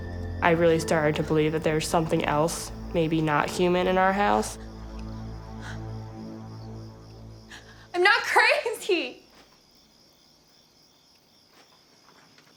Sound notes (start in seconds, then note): 7.7 crying